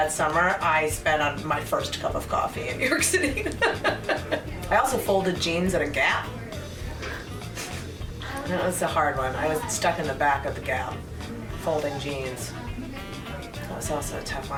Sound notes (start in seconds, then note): 6.8 laughs